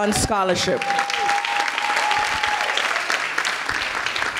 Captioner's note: clapping